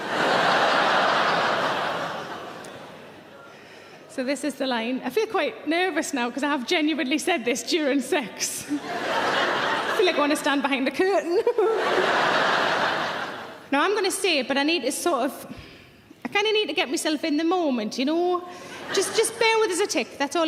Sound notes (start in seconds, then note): 0.0 audience laughing; 8.7 audience laughing; 11.3 giggles; 11.3 audience laughing